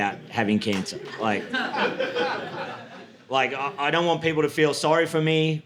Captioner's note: audience laughing